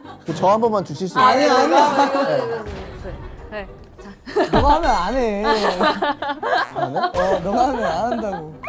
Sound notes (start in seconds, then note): 2.6 bamm!